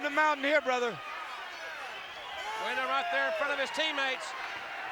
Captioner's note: applause